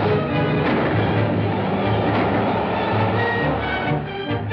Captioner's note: gunshots